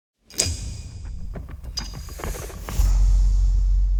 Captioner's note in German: Logo rauscht